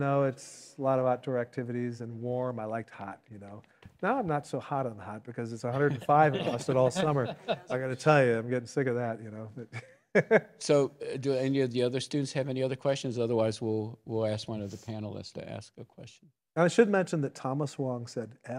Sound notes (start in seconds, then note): 10.1 laughs